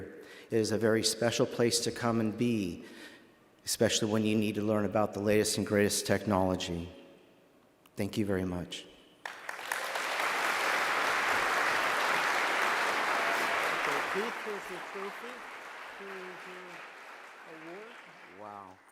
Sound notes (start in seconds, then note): 9.2 applause